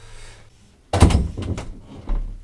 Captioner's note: door opens